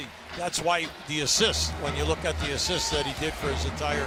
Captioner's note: cheers and applause